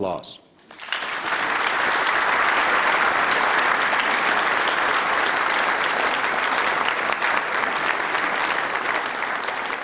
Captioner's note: applause